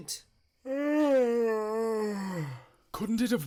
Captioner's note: henry yawns